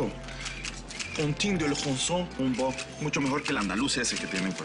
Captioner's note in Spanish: Habla en francés